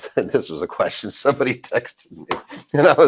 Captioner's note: laughs